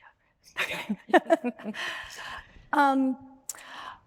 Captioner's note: both laughing